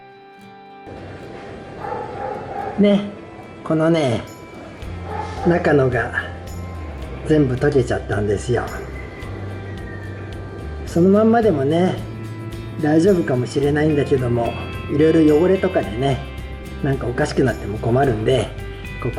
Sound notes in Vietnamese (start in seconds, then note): 5.0 cười